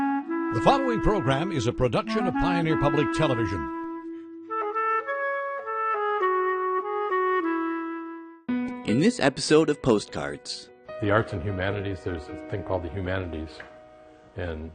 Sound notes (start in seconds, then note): 0.6 woodwind music; 1.2 voiceover; 8.9 voiceover